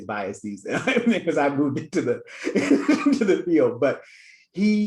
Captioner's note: laughs